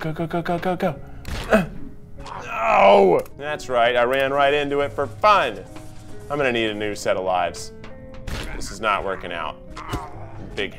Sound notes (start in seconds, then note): 2.2 grunts